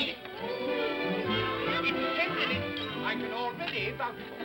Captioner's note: upbeat music; indistinct excited chatter